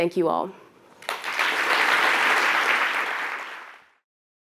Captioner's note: applause